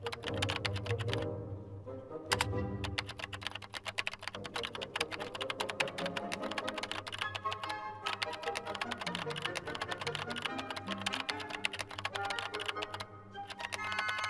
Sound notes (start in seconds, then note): 1.4 computer keys typing